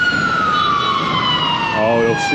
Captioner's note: loud sirens